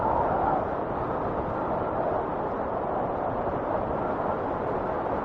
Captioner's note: wind whistling continues